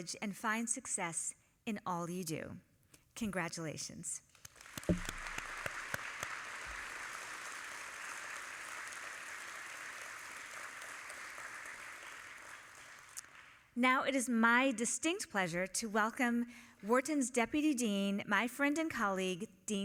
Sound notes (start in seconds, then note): 4.7 all applauding